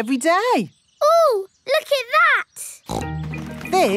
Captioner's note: snorts